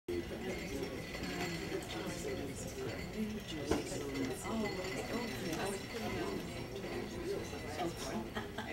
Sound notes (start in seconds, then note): 0.5 crowd talking